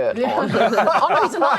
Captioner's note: strangely casual laughter